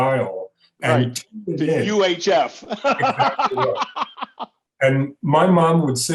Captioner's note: laughs